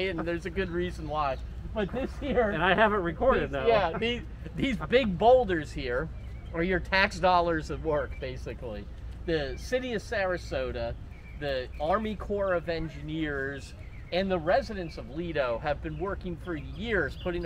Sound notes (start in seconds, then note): 1.6 chuckles